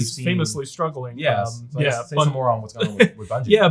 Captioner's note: chuckles